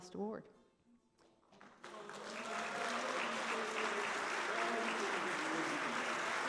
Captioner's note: applause